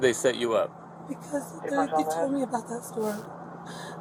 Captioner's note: radio chatter